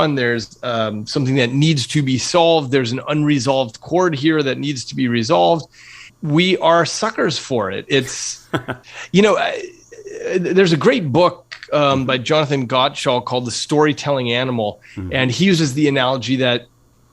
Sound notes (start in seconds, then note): 8.4 laugh